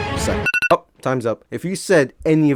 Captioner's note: alarm clock